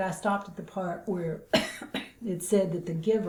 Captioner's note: coughs